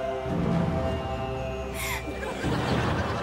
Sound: gasping

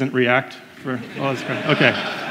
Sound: crowd; laughs

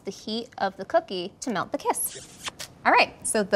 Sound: smooch

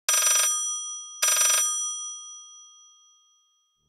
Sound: phone ringing

